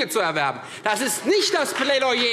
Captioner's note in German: Beifall Freie Demokraten